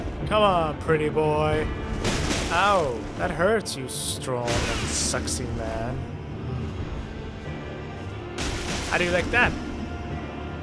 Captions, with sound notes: Come on, pretty boy! Ow, that hurts, you strong and sexy man! *restrained moan* How do you like that?